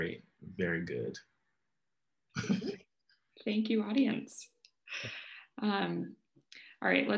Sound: laughs

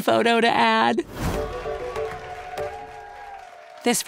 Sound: light whimsical music; audience cheers

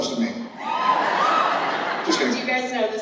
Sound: laughter

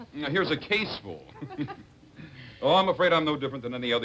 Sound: laughter

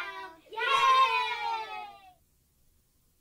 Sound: cheers

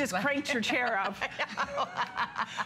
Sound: laughter

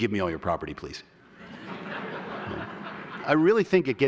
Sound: laughter

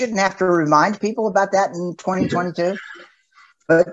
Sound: laughs

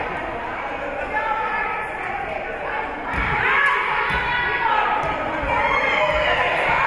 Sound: spectators shouting encouragements

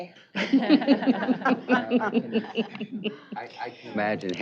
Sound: laughter

